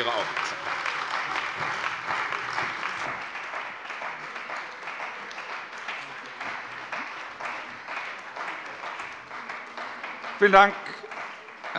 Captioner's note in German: Beifall bei der CDU und dem BÜNDNIS 90/DIE GRÜNEN